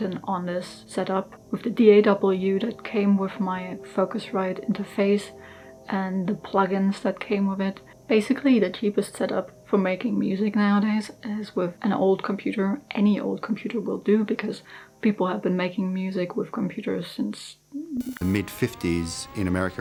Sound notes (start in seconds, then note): 18.0 glitch sound